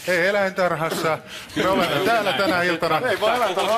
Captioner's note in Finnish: Aplodeja